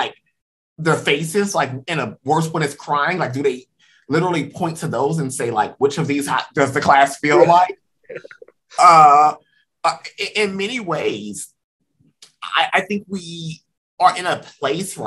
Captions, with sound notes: where there are faces and worst when it's crying? Like, do they literally point to those and say, which of these does the class feel like? [LAUGHS] In many ways, I think we are in a place